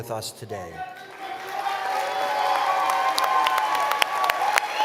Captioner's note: cheering